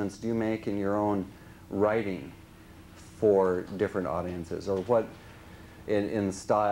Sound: none

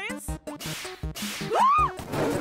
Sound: shrieks

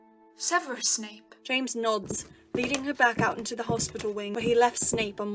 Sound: footsteps

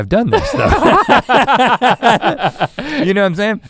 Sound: laugh

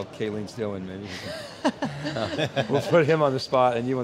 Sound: all laugh

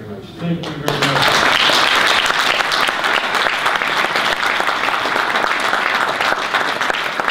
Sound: audience applause

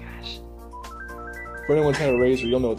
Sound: Razr beeps

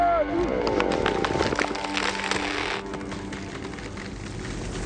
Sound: wood cracking

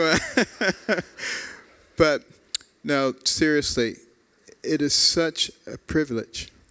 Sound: laughter

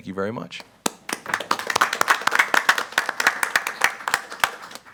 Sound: group applauding

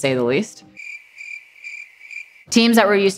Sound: crickets stridulating

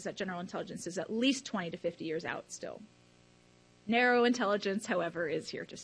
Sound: none

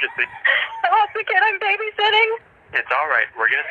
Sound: inhales

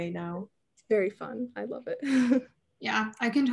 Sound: chuckles

